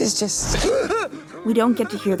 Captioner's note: Henry gasps for air